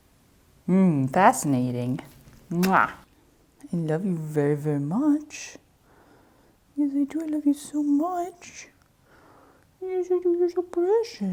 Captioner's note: kissy noise